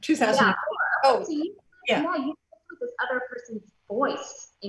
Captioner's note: overlapping chatter